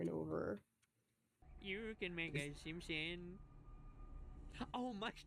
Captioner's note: in her terrible Homer Simpson voice